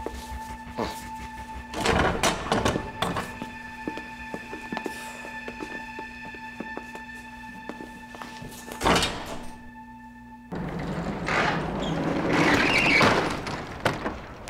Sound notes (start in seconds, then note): 1.8 door clicks open; 8.8 door clicks shut; 10.4 truck door closing